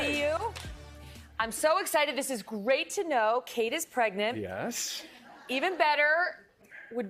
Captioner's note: applause